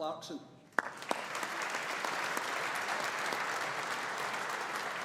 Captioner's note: audience applauding